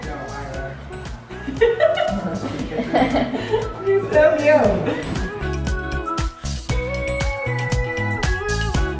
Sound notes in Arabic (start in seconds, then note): 1.4 أمي تضحك; 5.8 موسيقى مبهجة